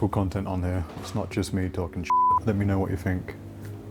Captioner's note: beep